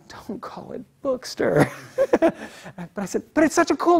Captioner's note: laugh